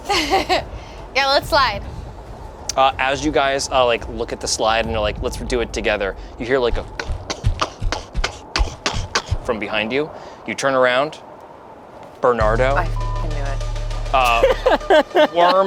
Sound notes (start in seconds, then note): 0.0 laughs; 6.7 clomping; 12.5 beeps; 14.1 laughs